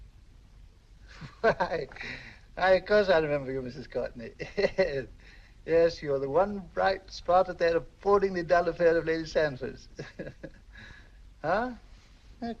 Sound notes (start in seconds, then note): 1.1 chuckles